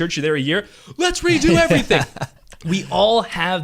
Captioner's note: laughs